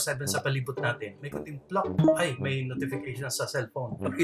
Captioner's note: plok!